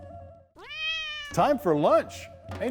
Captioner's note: cat meowing